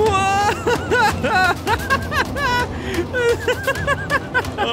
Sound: laughing

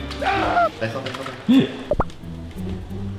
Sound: gasps

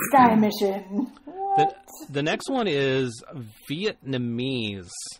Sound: laughs

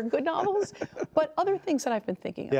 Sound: laughter

